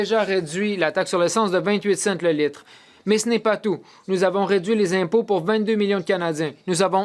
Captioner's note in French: voix de l'interprète